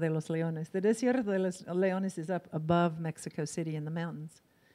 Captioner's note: in foreign language